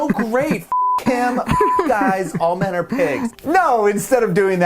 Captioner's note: beep